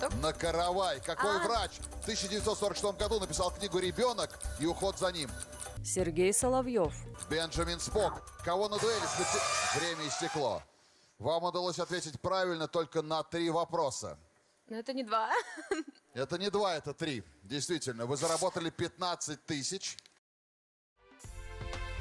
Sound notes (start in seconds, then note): 9.6 siren